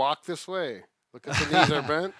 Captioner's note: chuckles